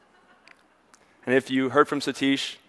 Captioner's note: audience members laughs